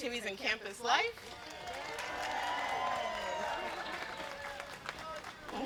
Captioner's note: applause